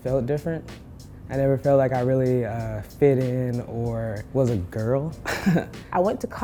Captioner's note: laughter